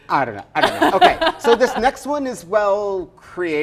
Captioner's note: laughs